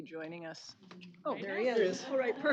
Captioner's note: overlapping chatter